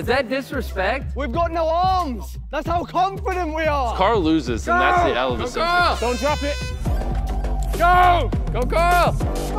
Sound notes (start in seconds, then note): 5.2 horn blows